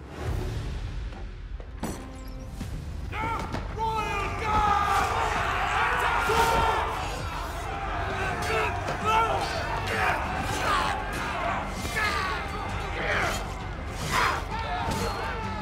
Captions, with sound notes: Royal guards! Attack! [shouting] [screaming]